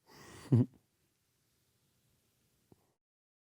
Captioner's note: chuckles